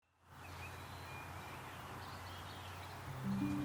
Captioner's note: birds chirping happily; calming music